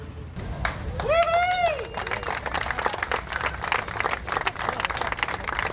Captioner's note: spectators cheering and applauding